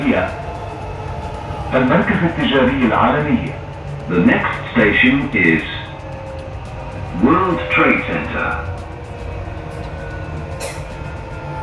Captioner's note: arabic Announcements